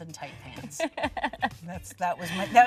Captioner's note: laughing